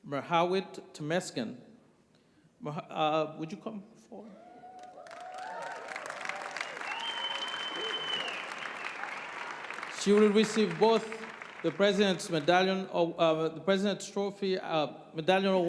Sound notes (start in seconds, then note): 5.2 applause